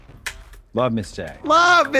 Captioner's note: Trixie claps